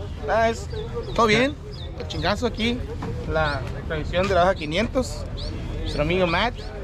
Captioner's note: speaking foreign language